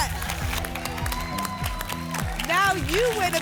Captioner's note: applause and cheering